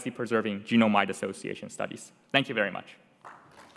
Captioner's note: applause